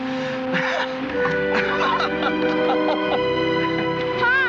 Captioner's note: laughing